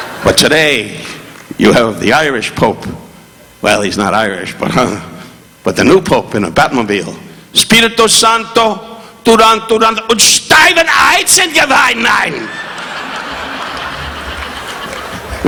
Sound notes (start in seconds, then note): 0.0 audience laughing; 7.4 Don speaking in foreign language; 12.4 audience laughing